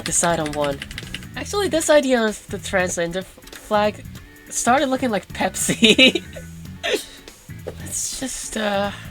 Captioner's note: chuckles